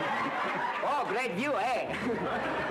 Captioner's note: laughter